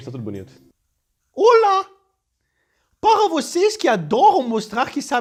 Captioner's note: french accent